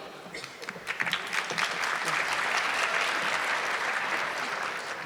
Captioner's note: audience clapping